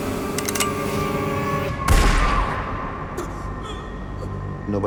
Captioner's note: gunshot